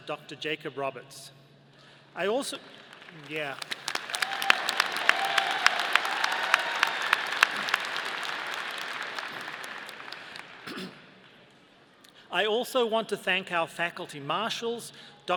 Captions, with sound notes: Dr. Jacob Roberts. I also, yeah. (audience applauding) I also want to thank our faculty Marshals,